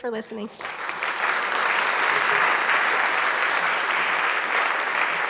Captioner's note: applause